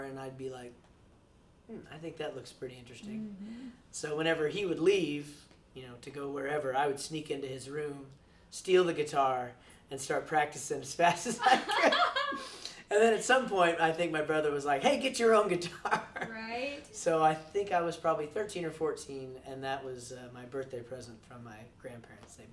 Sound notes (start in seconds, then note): 11.3 laughs; 15.8 laughs